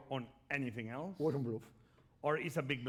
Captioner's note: speaking spanish